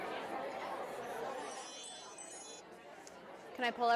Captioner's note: chiming